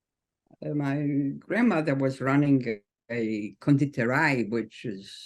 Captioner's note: speaks foreign language